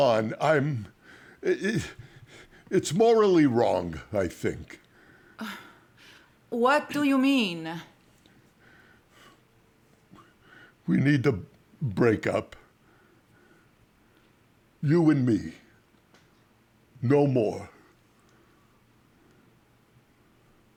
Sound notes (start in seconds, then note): 5.5 scoffs